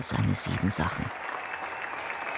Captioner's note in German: Applaus